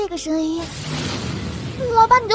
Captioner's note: bam!